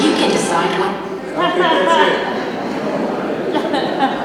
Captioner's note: people laughing